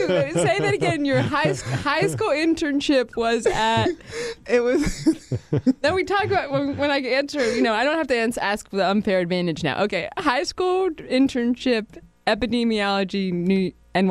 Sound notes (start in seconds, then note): 4.6 laughter